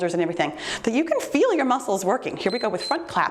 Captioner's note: timer beeps